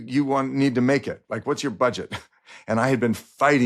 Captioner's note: chuckles